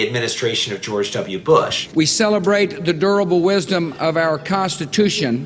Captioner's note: soundbite of archived recording